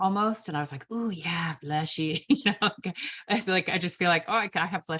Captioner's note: chuckles